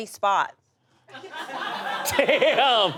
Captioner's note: audience laughs; laughs